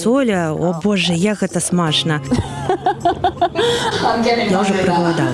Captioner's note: laughs